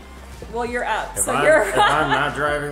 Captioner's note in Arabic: يضحك